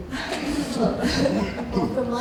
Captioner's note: laughing